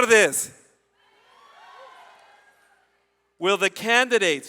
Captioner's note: audience cheers